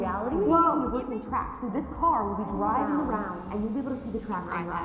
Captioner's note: voice still distorted